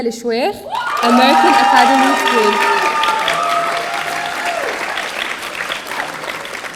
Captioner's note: audience cheering